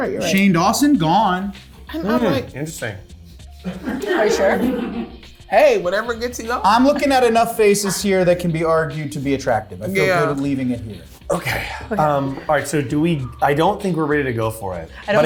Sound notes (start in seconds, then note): 3.6 cast laughing